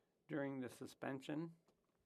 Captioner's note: speaking French